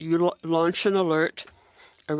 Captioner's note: speaking French